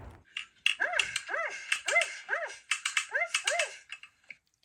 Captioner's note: dog barks